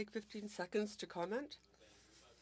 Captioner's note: speaking French